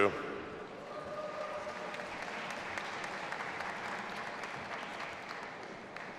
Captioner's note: audience applauding and cheering